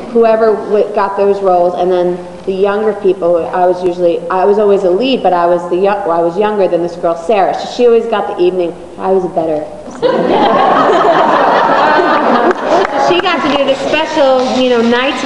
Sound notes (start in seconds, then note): 10.0 audience laughs